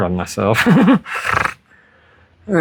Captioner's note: adhd laugh-snorts